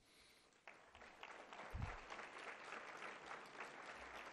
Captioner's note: applause